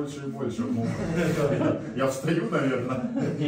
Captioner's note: laughter